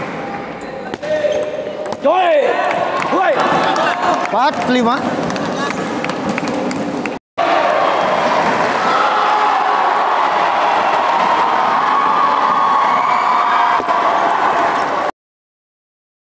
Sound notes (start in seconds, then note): 7.5 applause